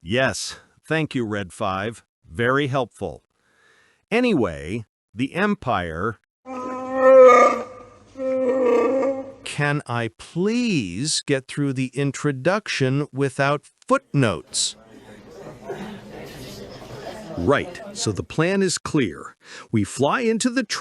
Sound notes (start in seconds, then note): 6.5 grumbles